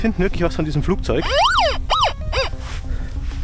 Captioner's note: squeak